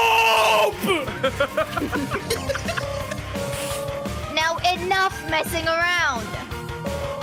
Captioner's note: laugh